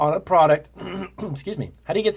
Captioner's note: clears throat